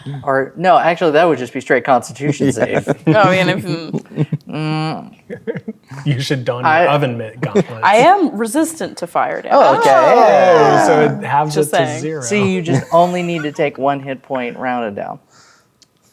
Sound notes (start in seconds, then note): 5.2 others laughing